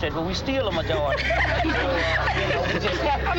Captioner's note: people laugh